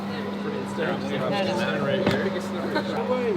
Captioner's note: group talking